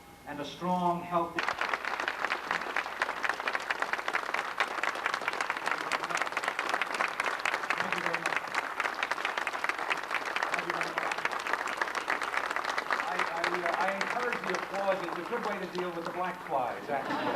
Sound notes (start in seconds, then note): 1.3 applause